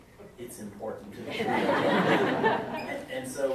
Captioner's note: audience laughs